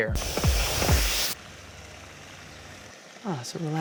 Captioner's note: water splashing